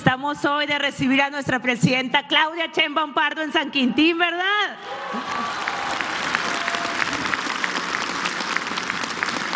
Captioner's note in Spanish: aplausos